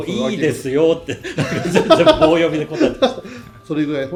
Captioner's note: laughs